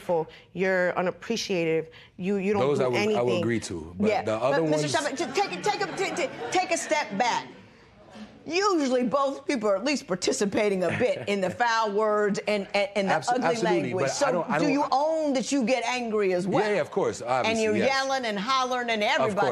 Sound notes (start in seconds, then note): 7.6 spectators murmur